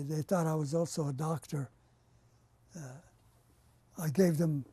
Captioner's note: pauses for 3 seconds